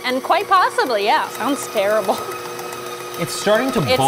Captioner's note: mixer whirring